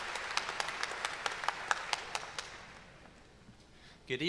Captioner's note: cheers and applause